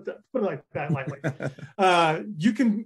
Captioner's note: laughing